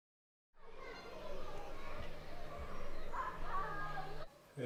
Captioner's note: children chattering